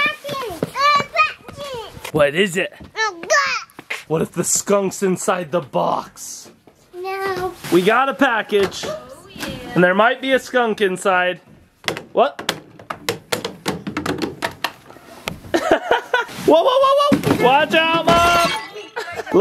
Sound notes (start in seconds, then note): 11.5 tube hitting stairs; 15.5 man laughing